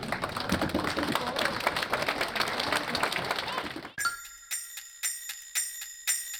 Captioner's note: aplausos